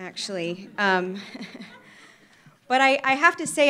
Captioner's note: laughter